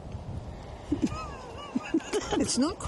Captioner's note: laughing